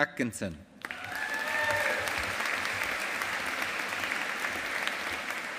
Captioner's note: audience applauding